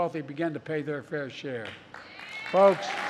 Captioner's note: applause